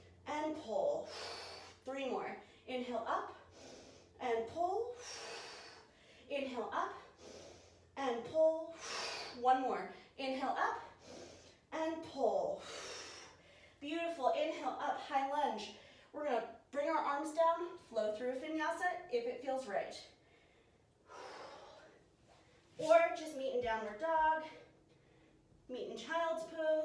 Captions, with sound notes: and [exhale] pull. Three more! inhale up, and [exhale] pull. Inhale up, and [exhale] pull. One more! Inhale up, and [exhale] pull. Beautiful! Inhale up high lunge. We're going to bring our arms down, flow through a vinyasa if it feels right. Or just meeting downward dog, meet in child's pose,